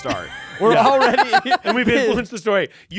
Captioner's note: everyone laughs